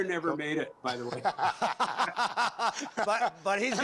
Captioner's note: laughter